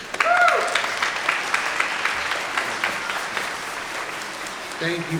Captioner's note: everyone applauding